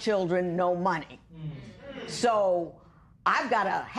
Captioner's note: spectators murmur